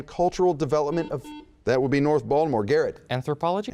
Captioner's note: buzzing